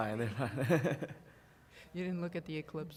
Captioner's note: laughter